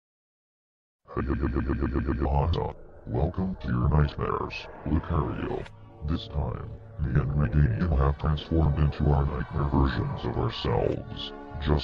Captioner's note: laughing